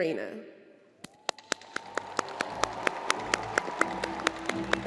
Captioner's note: crowd applauding; instrumental music